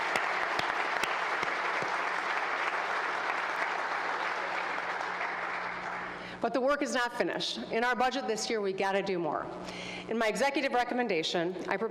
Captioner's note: applause